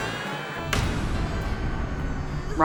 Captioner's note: baby crying